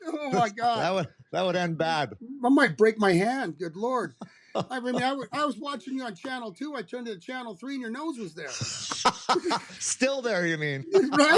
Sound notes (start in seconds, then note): 8.2 laughter